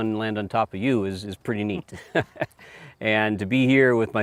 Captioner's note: laughing